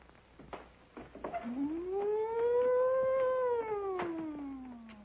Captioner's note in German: macht sirenenlärm